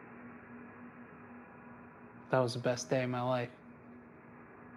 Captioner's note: none